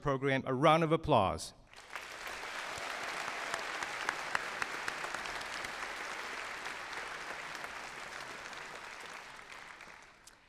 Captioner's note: applause